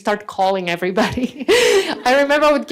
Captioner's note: laughs